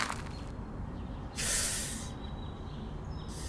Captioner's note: strained breath from Cast